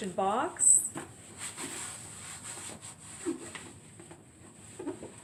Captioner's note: rubbing sound